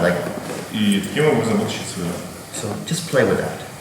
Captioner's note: speaking in a foreign language